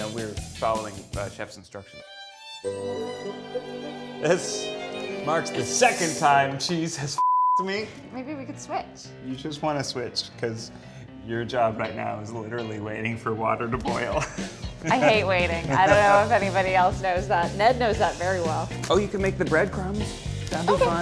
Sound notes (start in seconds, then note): 1.8 violin music; 7.2 beep